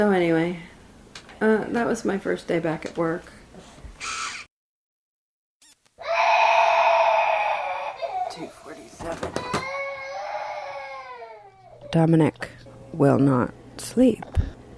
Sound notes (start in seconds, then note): 6.0 baby screaming